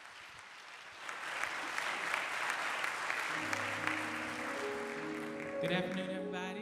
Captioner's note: applause